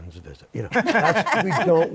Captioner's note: laughter